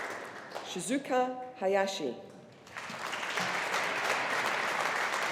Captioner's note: audience applauding